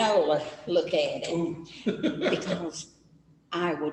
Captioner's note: laughter